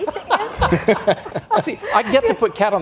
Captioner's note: all laughs